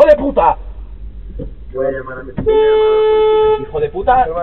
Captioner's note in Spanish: Claxon